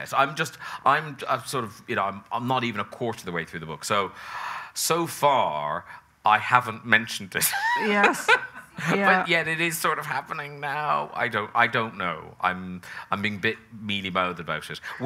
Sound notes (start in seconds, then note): 7.5 laughs